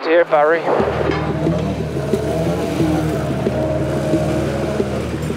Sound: engine growling

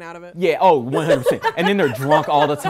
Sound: group laughing

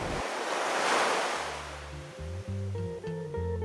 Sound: ocean wave crashing; soft music

